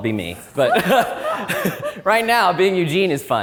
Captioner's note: all laughing